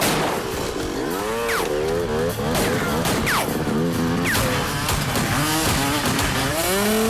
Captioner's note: guns firing; motorcycle engine revs